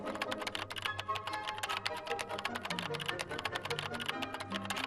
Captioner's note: upbeat music; keyboard typing